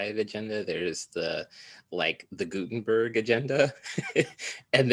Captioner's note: laughs